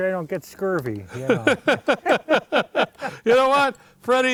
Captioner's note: laughing collectively